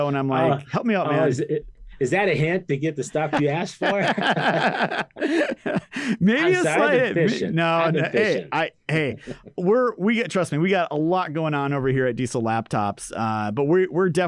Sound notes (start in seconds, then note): 6.3 laughing